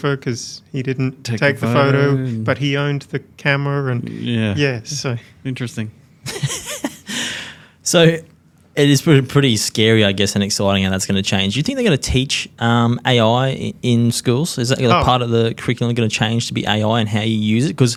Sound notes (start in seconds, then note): 6.2 laughs